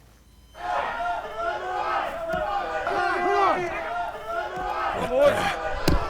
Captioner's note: yelling and screaming